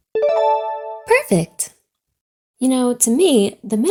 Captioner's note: check mark dings